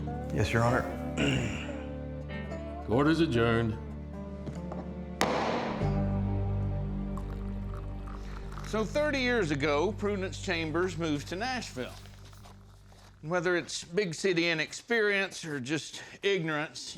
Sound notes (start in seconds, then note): 5.2 gavel bangs; 7.0 liquid pouring